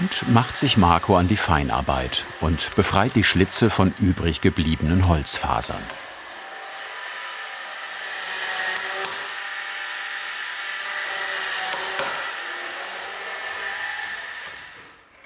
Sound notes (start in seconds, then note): 9.5 electrical sawing noise in the background